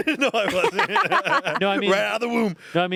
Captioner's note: everyone laughs